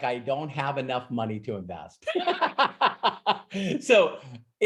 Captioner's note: laughs